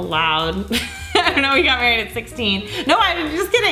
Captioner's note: laughing